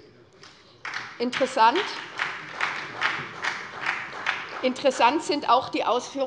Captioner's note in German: Beifall bei der SPD